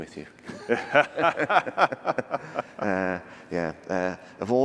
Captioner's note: laughter